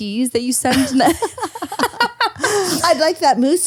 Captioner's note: laughing